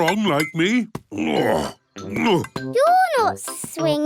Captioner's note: grunts